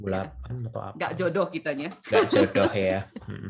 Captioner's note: laughs